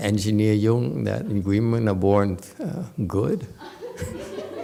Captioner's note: audience giggles